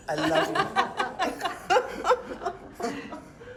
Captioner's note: laughing